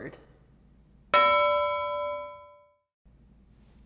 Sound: ding

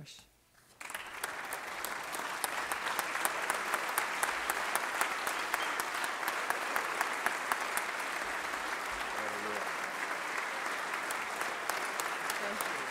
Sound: applause

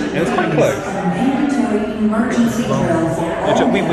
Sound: cast member chattering

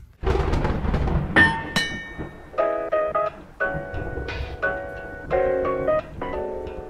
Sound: logo thunders and chimes; bright music

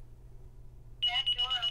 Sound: beeping

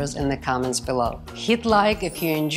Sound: chimes twinkling

